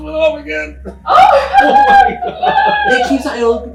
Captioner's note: group laughing